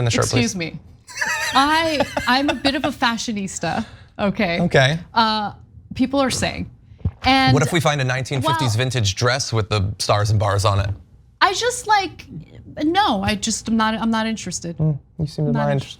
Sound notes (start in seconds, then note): 1.1 laugh